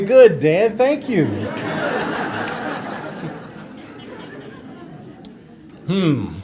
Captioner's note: laughter